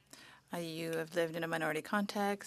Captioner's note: speaking French